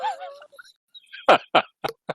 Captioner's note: laughter from everyone